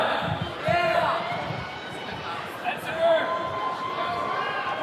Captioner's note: attendees cheering